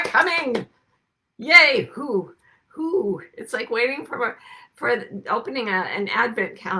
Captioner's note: clapping